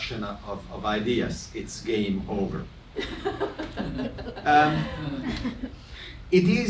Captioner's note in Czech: publikum se směje